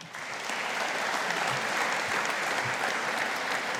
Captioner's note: audience applauding